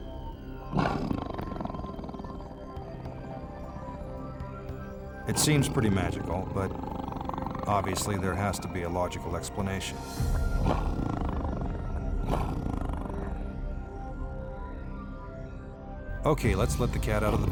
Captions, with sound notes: (tiger growls) It seems pretty magical, but obviously there has to be a logical explanation. (tiger growls) Okay, let's let the cat out of the bag